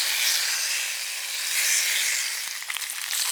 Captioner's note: sizzle; lots of lovely sizzling